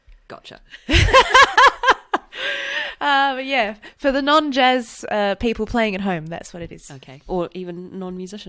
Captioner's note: laughs